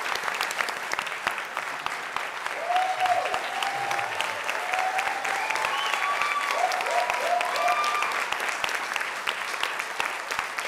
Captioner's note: applause